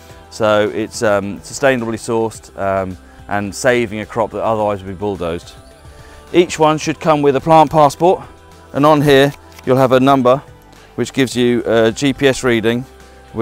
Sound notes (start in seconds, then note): 9.3 passport flicking